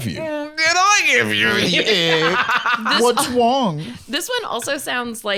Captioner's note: laughing